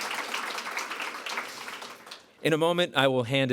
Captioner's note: applause